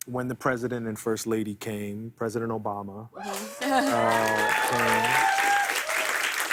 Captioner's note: cheers and applause